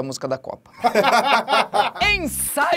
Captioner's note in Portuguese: risadas